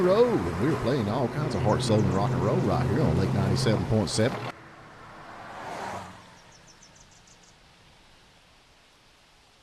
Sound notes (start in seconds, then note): 5.2 outdoor din